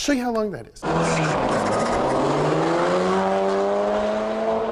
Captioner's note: engine revving